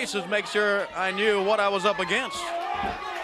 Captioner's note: crowd chatter